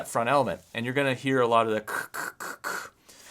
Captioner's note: screeches